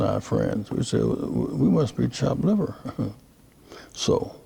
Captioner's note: laughing